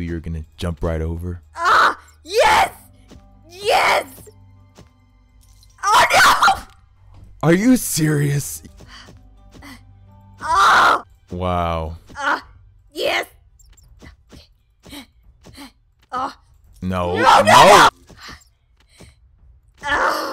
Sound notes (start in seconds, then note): 10.4 yells; 17.0 yells; 19.8 groans